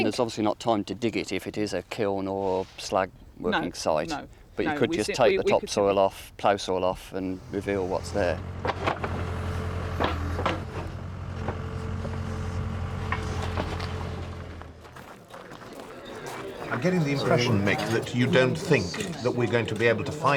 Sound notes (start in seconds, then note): 7.6 excavator engine revs; 15.0 footsteps crunch; 15.3 group chatter